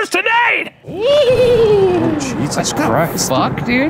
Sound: thunder rumbles

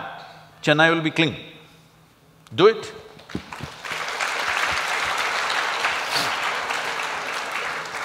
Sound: applause

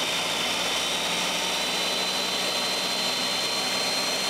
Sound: blender whirls

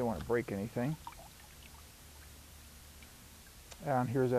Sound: liquid dripping

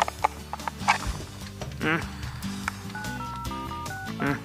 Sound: grunts; grunts

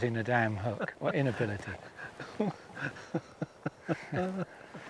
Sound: laughing

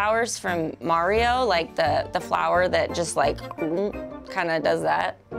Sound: gulping

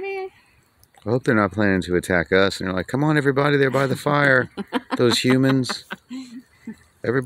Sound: laughing

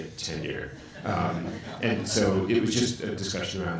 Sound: audience laughs

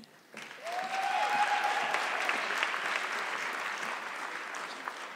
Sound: audience clapping

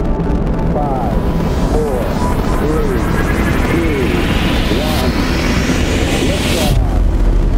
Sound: radio voice 2

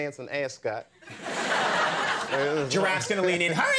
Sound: audience laughing

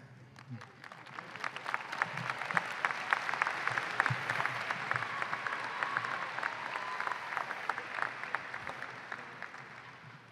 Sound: applause and cheering

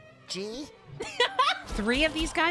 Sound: laugh

